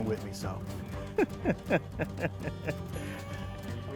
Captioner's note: laughs